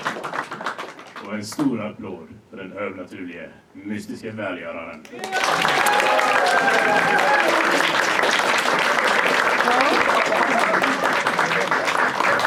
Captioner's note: audience claps and laughs; audience claps and cheers